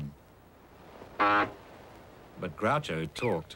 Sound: horn honks

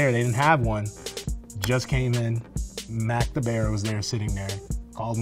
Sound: snaps

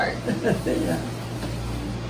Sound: laughs

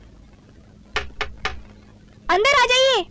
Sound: knock On Door

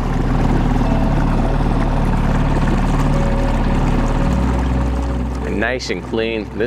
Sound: motor rustling; soft music

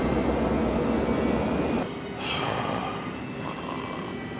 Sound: snoring

